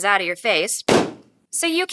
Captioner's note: balloon pops